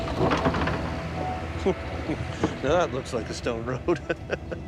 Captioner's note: laughs